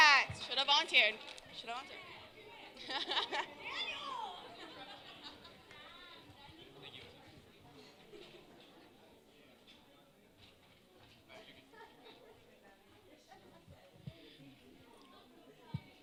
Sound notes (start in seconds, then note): 2.5 talking in background